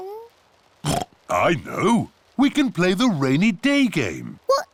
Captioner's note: oinks